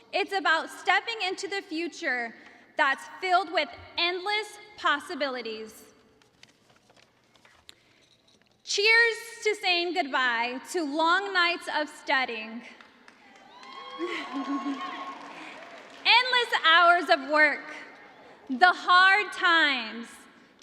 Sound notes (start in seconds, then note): 13.1 cheers and applause